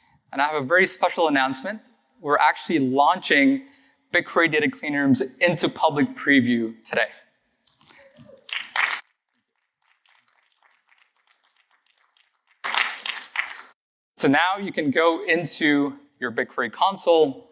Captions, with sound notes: And I have a very special announcement. We're actually launching BigQuery data clean rooms into public preview today. [APPLAUSE] So now you can go into your BigQuery Console